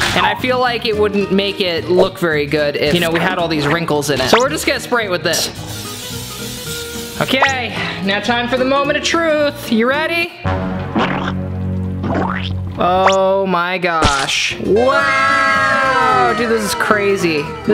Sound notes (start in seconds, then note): 10.4 dramatic music; 11.0 liquid squelching